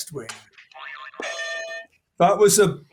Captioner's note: boing; bell ringing